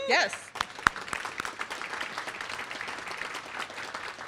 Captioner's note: applause